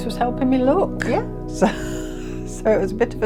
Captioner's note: laughs